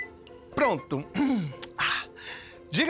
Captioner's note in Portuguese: Pigarro